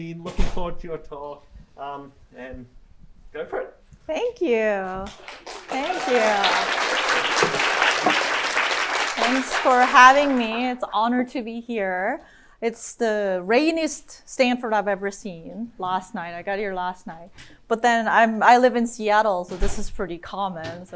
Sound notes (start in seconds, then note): 5.0 applause